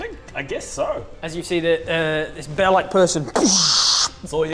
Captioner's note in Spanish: boosh